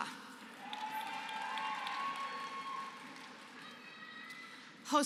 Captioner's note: applause